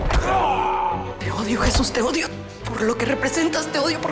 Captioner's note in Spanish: Golpes; Quejidos; Sollozos